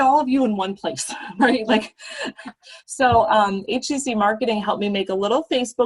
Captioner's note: laughter